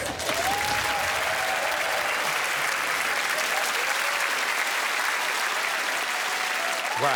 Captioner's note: cheering, applause and laughter